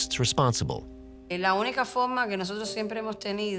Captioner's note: speaking in Spanish